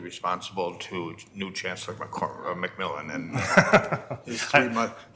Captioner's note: laughs